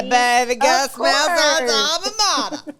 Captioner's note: laughs